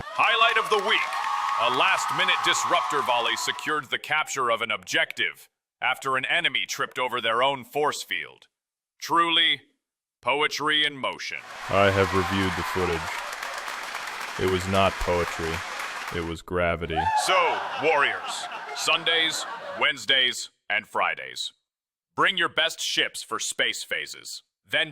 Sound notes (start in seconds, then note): 0.0 audience erupts; 11.4 applause; 17.1 laughter